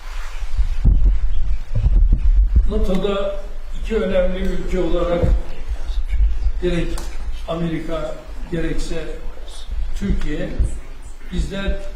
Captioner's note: speaking Turkish